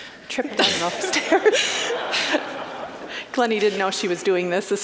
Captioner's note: audience laughing